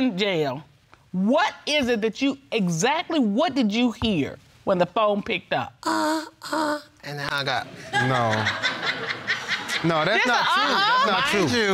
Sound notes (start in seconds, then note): 6.5 moaning; 7.7 audience laughing